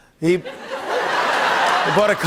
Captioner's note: laughter